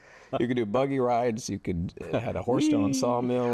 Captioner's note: laughs